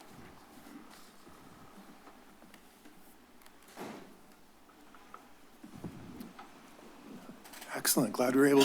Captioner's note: silence